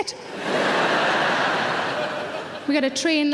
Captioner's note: audience laughing